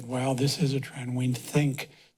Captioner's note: none